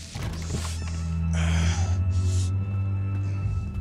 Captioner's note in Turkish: Kapı açılma sesi